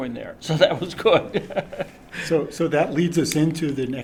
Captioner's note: laughter